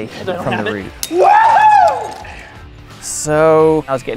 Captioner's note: screaming